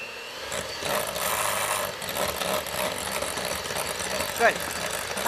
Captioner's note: whirring Sound